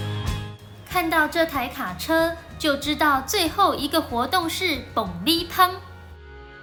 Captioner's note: Taiwanese